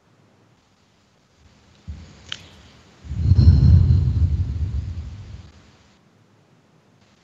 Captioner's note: breath